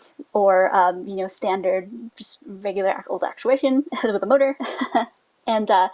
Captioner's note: laughs